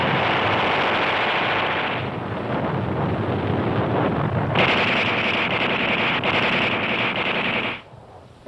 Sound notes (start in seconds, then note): 0.2 gunfire rattling; 4.5 gunfire rattling